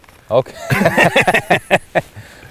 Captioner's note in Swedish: skrattar